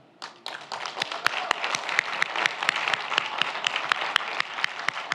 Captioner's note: audience applauds